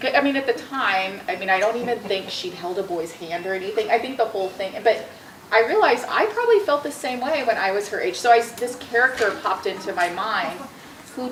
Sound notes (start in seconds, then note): none